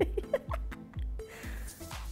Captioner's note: laughing